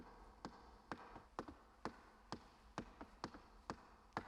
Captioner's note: shoes clacking